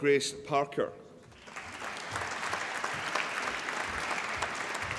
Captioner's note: applause